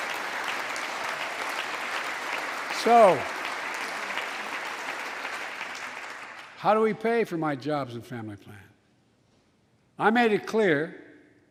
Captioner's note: applause